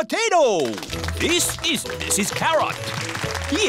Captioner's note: applause